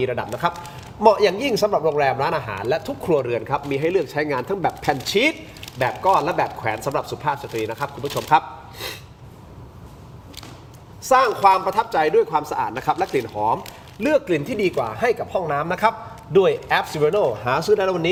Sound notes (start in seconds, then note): 8.7 sound of inhaling